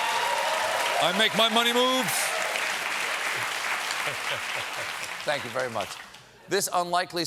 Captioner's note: laughter